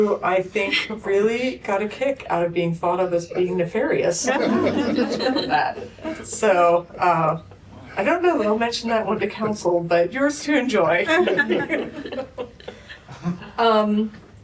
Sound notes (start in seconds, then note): 4.2 laughter